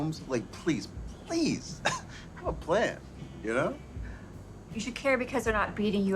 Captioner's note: laughs